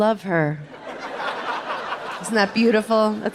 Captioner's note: audience laughing